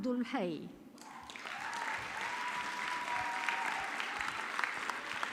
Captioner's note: audience clapping